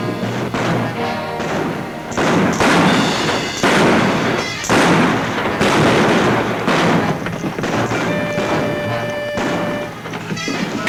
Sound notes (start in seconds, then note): 2.6 exciting music; 2.6 guns bang